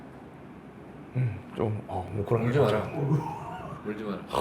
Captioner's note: choked up